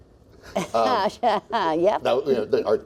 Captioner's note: laughs